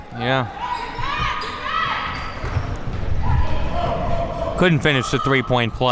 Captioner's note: spectators shouting encouragements